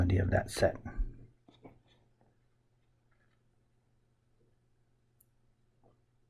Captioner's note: writing Sounds